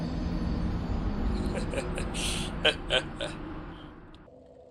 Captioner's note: laughs like a dumbass